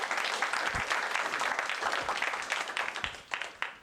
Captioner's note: applause